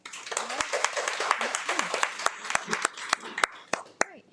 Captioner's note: attendees applaud